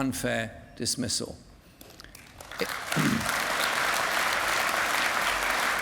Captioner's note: applause